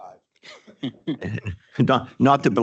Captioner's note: people chuckling